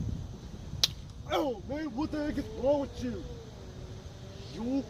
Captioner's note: slap